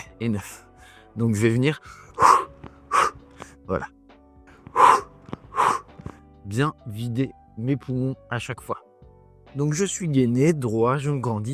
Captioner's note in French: soupir